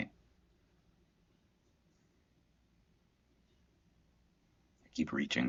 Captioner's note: silence